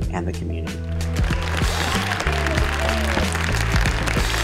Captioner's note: applauding